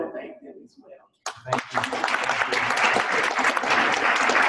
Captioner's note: applause